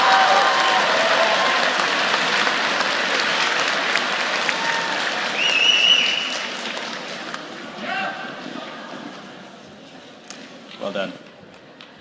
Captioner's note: cheers and applause